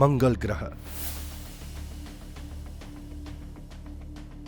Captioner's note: whooshing